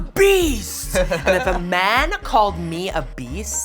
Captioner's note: laughs